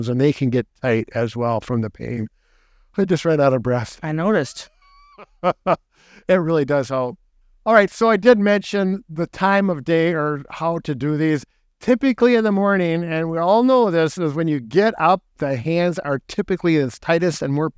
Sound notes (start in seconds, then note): 4.2 chuckling